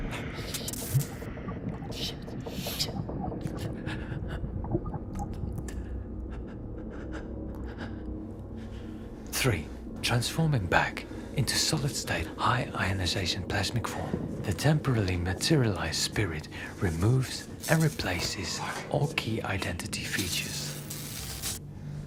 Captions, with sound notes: Shit. Shit! Shit... [Fleques panting heavy] Three. Transforming back into solid state high ionization plasmic form... ...the temporarily materialized spirit removes and replaces all key identity features.